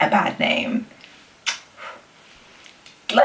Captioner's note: blows kiss